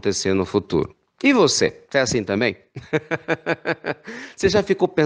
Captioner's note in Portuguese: risos